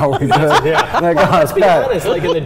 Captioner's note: all laughing